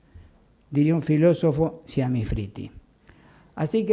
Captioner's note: italian